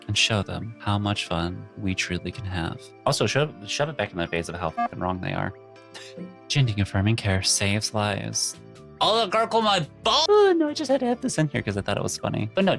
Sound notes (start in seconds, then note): none